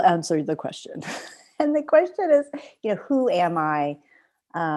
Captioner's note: laughter